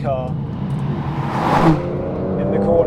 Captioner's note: car zooming